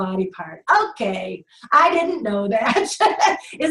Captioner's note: laughing